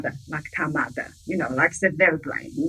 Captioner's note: speaking in foreign language